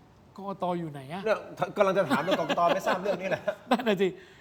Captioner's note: laughs